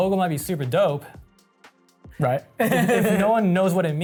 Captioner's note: laughs